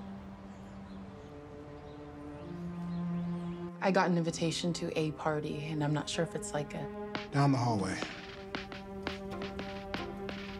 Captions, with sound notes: (gentle music) (birds chirping) - I got an invitation to a party, and I'm not sure if it's like a. - Down the hallway.